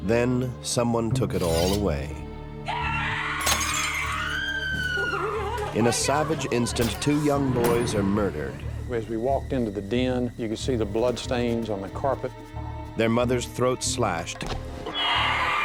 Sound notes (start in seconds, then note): 2.6 woman screams; 3.4 glass shatters